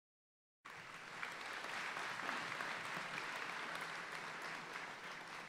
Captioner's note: audience applauding